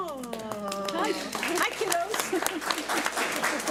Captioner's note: audience applauds